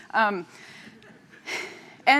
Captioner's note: laughter